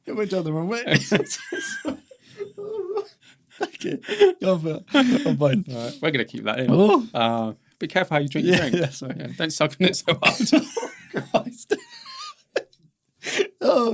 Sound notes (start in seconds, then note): 0.9 both laughing; 9.8 laughs; 9.9 both laughing